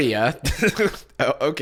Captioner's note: chuckles